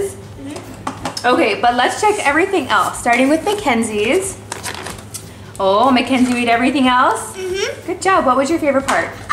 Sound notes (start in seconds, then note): 0.0 laughs; 4.4 lid popping